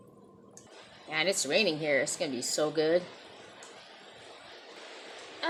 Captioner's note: sound of a loud rain storm